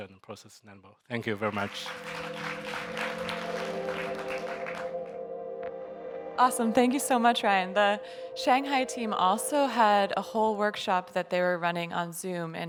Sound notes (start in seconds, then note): 1.2 audience members applauding; 1.4 gentle electronic music